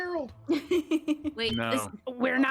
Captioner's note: Penelope laughs